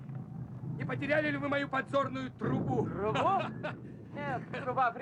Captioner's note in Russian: смеется